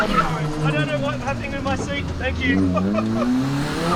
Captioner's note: laughing